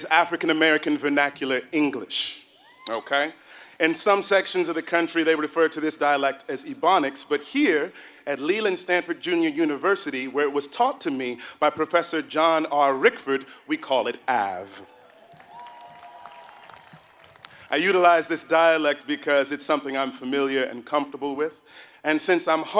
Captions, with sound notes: African American Vernacular English, okay. In some sections of the country they would refer to this dialect as ebonics, but here at Leland Stanford Junior University where it was taught to me by Professor John R Rickford, we call it AAVE. >> [APPLAUSE] >> I utilize this dialect because it's something I'm familiar and comfortable with,